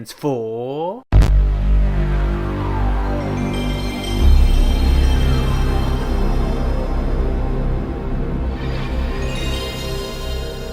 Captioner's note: Playstation Turny Onny Noise